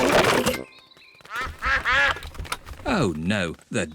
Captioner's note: quacking